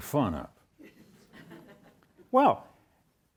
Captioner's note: audience laughs